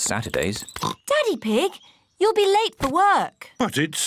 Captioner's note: oinks